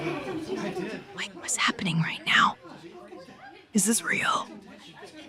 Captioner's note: whispering